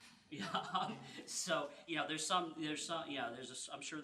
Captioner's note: laughing